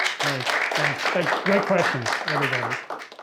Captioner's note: students clapping